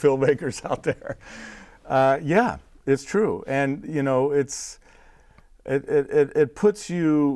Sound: laughing

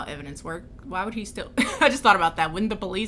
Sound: laughs

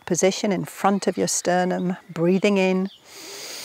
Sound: inhales

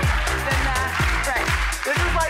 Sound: audience claps

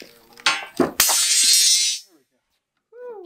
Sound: clang

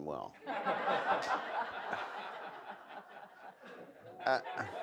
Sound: audience laughs

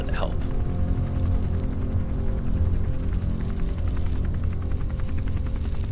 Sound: propeller churning

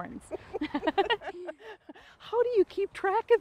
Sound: laugh

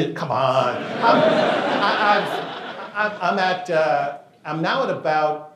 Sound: laughter

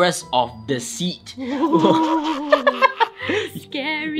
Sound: witch laughing in the background

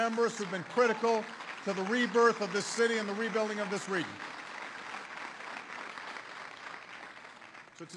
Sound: applause

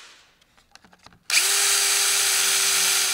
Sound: Bohrgeräusch

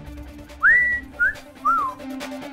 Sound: whistles

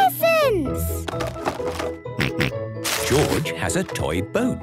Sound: rattling; snorting

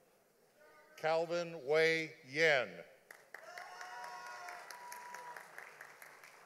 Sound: audience applauding

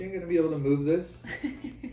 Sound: laughing

